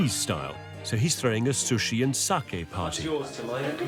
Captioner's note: foreign language